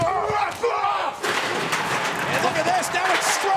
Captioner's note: objects clattering